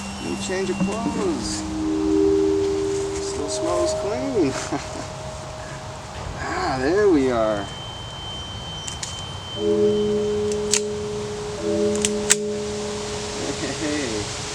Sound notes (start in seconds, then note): 4.6 laughs To Himself; 11.8 cocks Gun